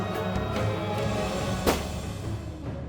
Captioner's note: gun shot